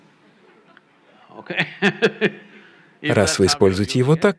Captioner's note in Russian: Смеётся